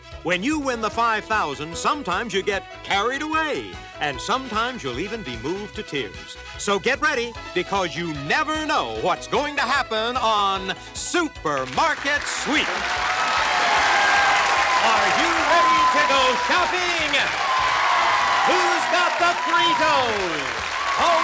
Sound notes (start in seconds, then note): 13.1 cheers and applause